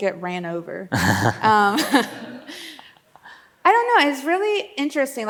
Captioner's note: laughs